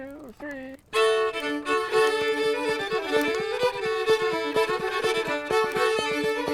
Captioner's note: fire crackling